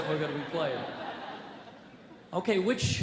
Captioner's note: audience laughs